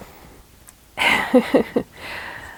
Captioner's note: laughs